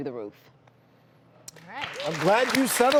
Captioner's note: audience clapping